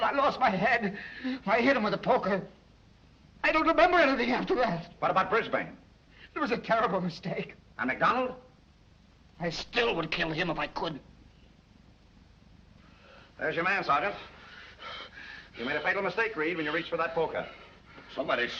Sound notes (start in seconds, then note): none